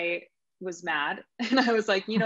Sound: laughing

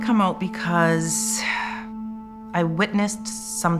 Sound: sighs

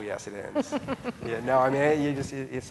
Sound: laughing

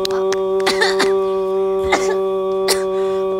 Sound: clapping; coughing

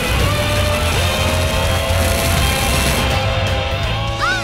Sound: crackling

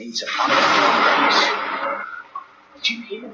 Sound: sound of thunder

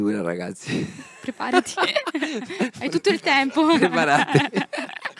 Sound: laughing

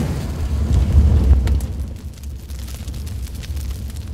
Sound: fire crackling

